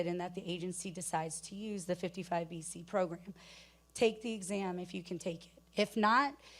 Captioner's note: none